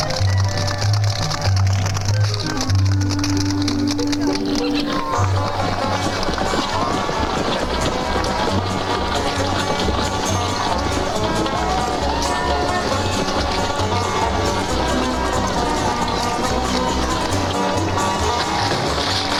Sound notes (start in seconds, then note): 6.2 horse hooves clopping; 16.1 gentle upbeat music